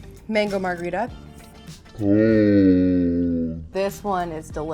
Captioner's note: deep moan